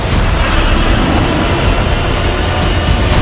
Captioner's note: Godzilla Victory Roars